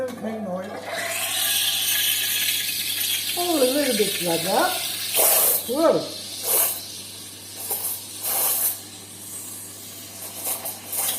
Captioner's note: sound of steaming milk